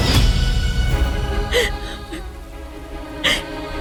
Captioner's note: sobbing